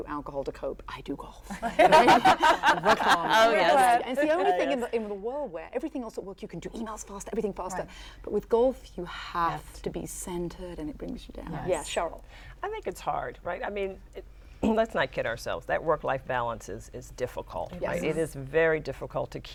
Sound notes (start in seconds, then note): 1.5 laughter